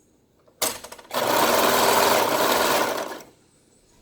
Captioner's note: sews Piece Together on Sewing Machine